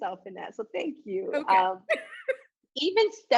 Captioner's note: laughs